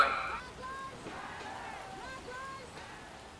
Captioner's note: Protesters chant "Black Lives Matter"